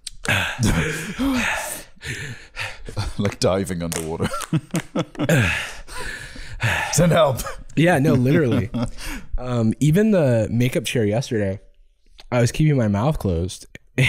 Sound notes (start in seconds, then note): 0.2 gasping for breath; 5.2 gasping